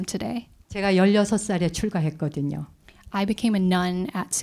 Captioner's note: speaking in Korean